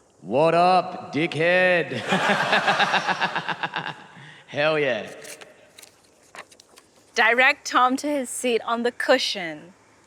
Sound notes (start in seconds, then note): 1.9 laughter; 1.9 laughs